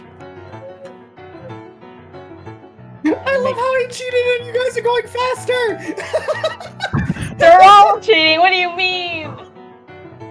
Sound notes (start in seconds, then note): 6.0 chuckles™; 6.0 maniacally laughs